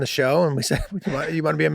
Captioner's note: Charlie laughing nostalgically